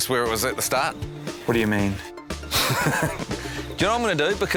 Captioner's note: chuckles